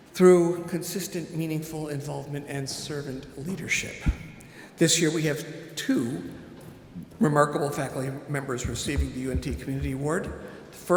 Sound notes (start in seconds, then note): none